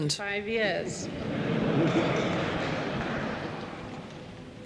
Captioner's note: people laughing